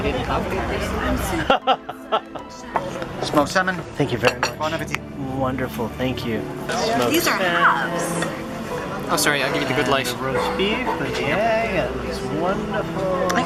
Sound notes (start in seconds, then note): 1.3 laughter